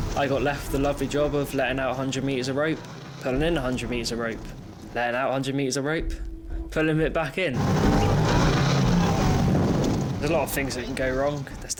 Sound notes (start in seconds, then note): 7.9 engine rumbling